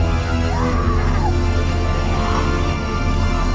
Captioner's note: dramatic music; Miss. Fang screaming; dramatic music